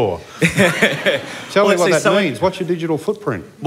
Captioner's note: laughter